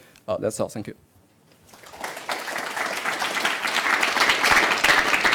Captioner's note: applause